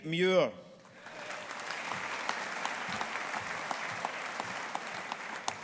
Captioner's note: audience applauding